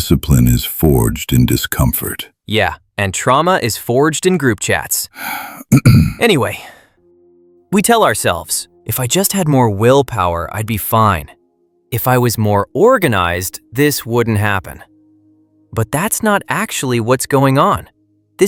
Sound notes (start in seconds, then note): 5.5 clears throat